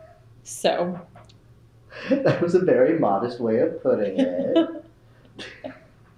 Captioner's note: laughter